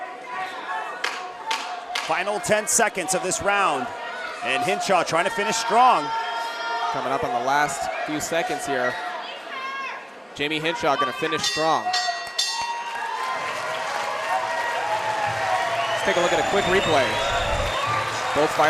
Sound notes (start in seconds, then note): 11.4 bell rings; 12.7 audience cheering